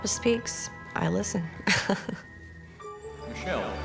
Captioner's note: chuckling